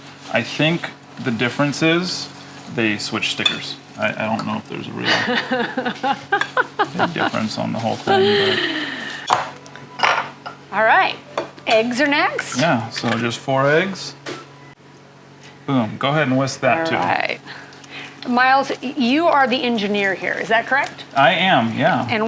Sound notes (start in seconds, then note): 4.9 laughing